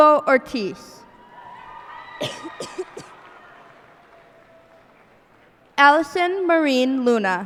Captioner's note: cheers and applause